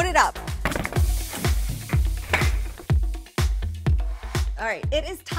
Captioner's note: thrown stuff clattering